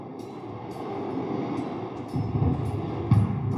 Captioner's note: ocean waves